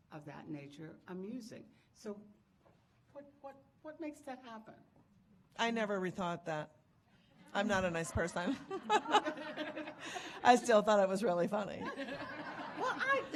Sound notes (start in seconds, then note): 8.4 audience laughing